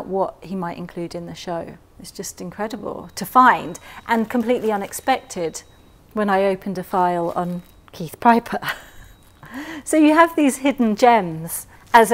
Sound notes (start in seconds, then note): 8.6 laughs